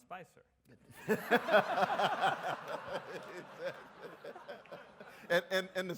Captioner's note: Dr. West and audience laugh